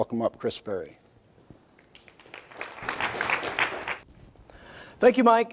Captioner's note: applause